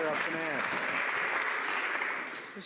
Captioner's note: some Applause